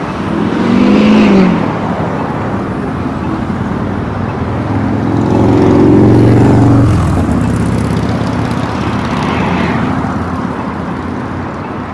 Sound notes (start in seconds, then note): 0.3 engine roars; 4.7 engine roars; 9.7 traffic rumbles